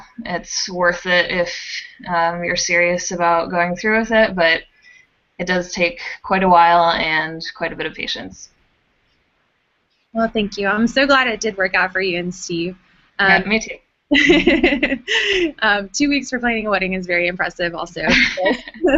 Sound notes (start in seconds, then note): 14.1 chuckles; 18.0 chuckles